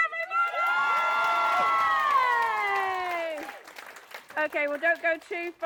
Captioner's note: applause